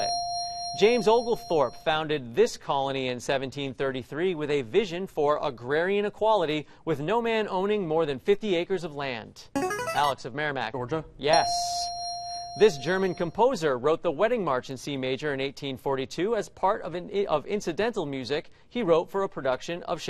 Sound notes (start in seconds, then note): 0.0 ding; 8.7 buzzer plays; 11.3 ding